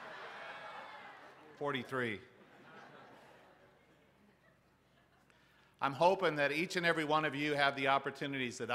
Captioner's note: laughter